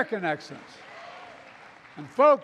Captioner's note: applause